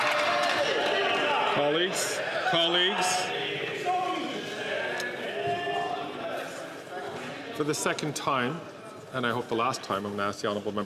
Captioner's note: some Applause